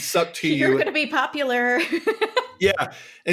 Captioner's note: laughs